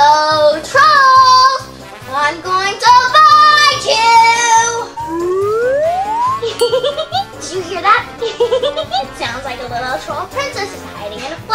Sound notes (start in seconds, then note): 8.2 giggles; 8.2 giggling sounds